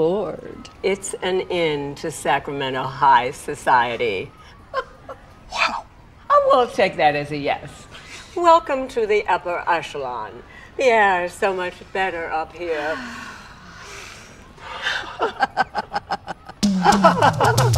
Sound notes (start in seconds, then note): 4.4 chuckles; 13.0 inhales, exhales; 14.9 laughter